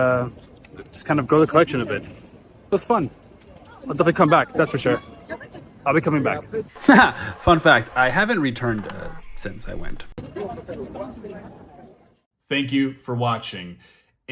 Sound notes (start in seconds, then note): 6.4 haha